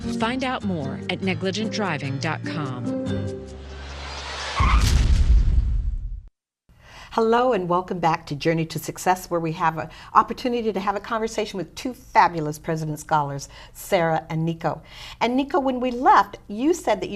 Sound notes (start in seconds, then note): 3.0 sound effects